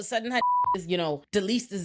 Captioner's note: beep